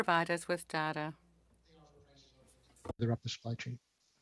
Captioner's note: speaking French